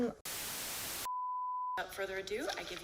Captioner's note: static